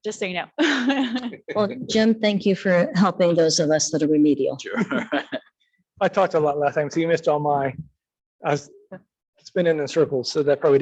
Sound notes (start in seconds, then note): 0.6 chuckles; 4.7 laughing